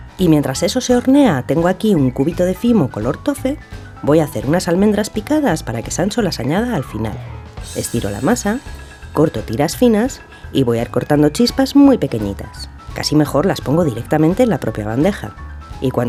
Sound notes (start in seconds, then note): none